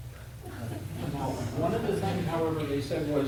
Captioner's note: audience laughs